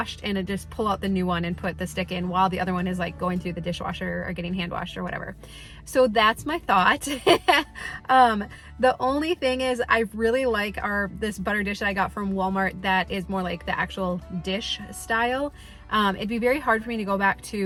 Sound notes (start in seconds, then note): 8.0 laughs